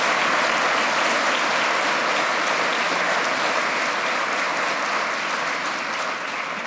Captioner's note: applause and cheering